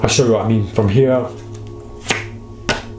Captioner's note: cards clack